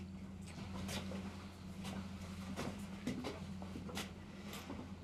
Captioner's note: footsteps approaching